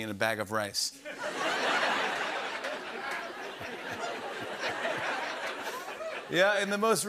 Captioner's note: laughter